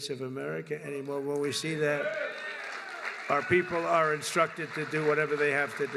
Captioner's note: applause